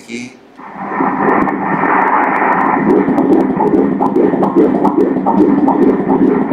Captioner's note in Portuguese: batimentos cardíacos